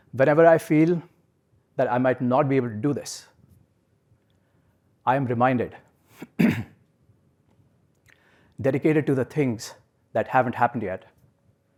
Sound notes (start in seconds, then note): 6.1 cough